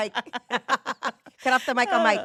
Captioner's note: laughing